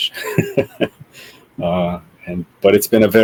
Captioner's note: laughs